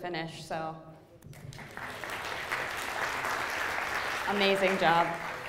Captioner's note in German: Beifall